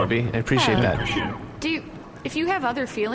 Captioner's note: none